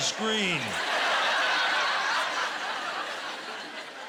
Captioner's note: laughter